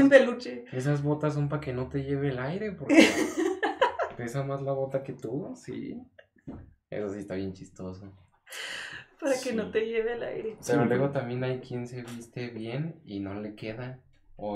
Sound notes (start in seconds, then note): 2.9 laughs